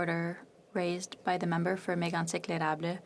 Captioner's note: speaking French